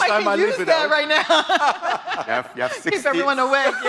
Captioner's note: laughter